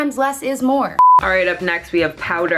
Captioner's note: beeping